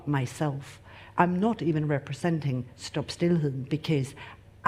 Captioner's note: speaks in foreign language